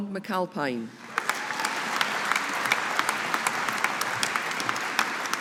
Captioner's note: audience applauding